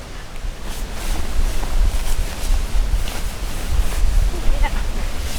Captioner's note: rustle rustle